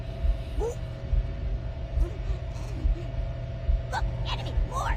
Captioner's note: sob